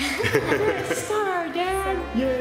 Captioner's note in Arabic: يضحك